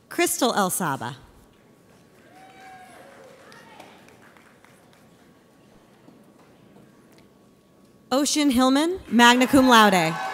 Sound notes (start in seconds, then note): 2.1 audience applauds; 9.3 audience cheers